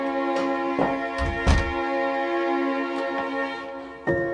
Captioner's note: door shutting